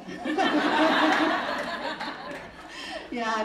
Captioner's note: audience laughing